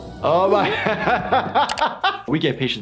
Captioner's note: laughing